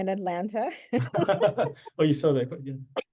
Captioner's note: laughing